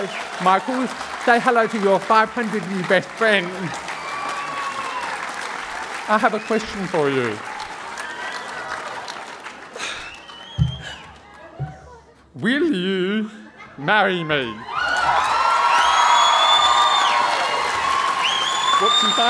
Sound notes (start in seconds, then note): 4.2 applause; 10.7 sighing; 14.3 cheering and applause